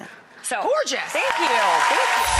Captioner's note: audience cheers